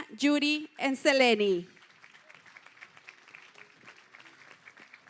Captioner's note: applause